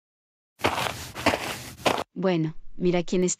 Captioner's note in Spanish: FX - Footsteps - On Multiple Dirt - Walk